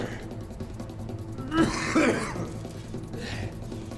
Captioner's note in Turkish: Öksürme sesi